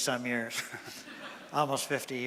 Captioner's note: laughter from audience